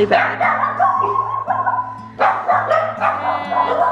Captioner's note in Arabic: كلب ينبح